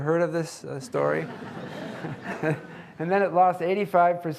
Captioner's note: audience laughing